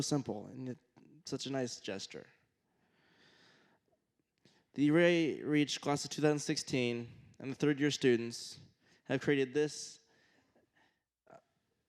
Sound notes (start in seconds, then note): none